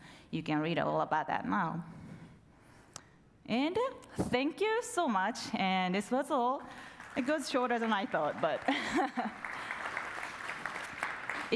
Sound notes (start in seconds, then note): 6.8 audience applauds; 8.6 laughs